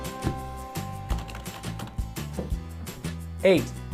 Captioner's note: keyboard clacking